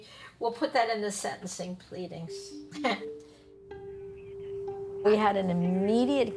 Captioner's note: chuckling